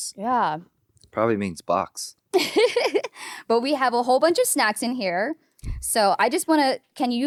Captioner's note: laughing